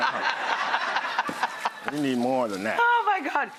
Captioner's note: Rachael and crowd laughing